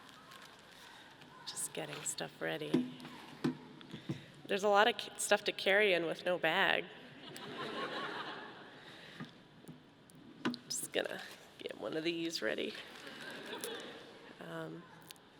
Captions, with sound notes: - Just getting stuff ready. There's a lot of stuff to carry in with no bag. (audience laughing) Just gonna get one of these ready.